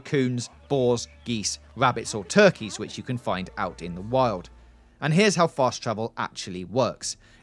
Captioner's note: geese